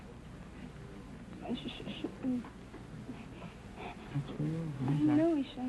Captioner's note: whispering